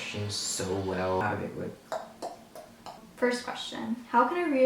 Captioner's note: clicks tongue